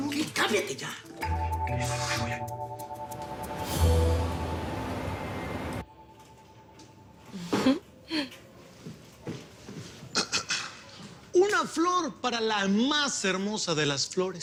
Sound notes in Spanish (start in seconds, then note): 2.1 Habla entre dientes